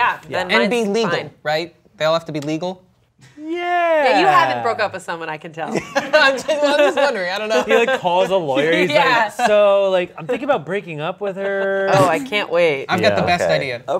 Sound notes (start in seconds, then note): 5.6 laughing